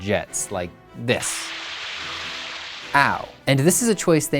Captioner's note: gentle gushing noises